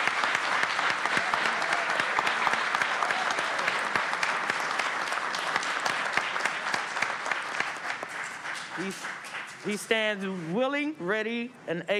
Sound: applause

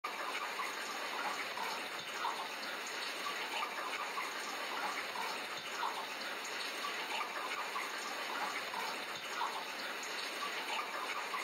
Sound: rain sounds

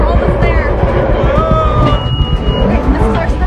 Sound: screams

